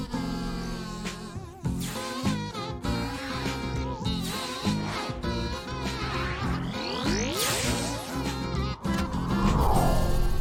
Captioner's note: kazoo music; energy bolts wooshing and crackling